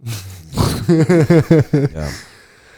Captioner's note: laughs